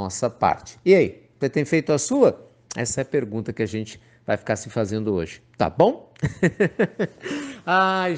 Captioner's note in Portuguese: Risos